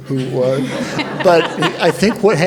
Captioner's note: audience laughs